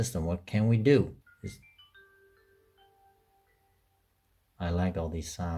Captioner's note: Puppy Linux start up sound